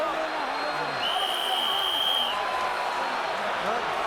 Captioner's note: whistle blows